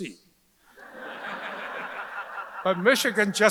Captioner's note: audience laughs